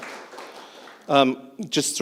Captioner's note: applause